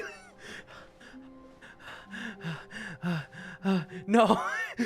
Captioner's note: panting; exasperated